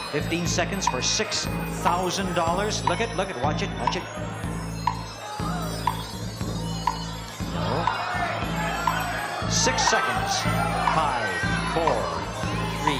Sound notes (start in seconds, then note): 8.8 audience cheers